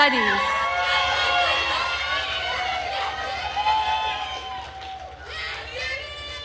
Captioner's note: attendees cheering and applauding